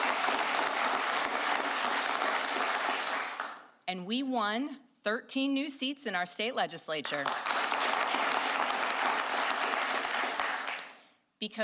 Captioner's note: applause